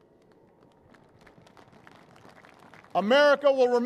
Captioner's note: applause